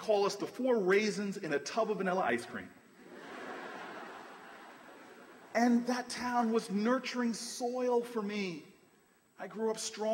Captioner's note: laughter